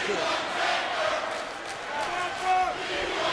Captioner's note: audience clapping